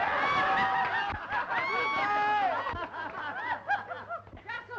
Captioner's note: laughing and cheering